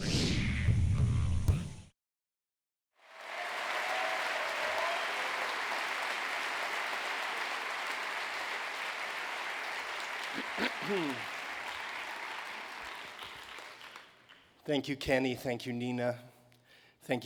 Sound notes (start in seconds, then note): 7.6 applause